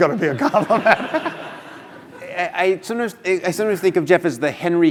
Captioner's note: laugh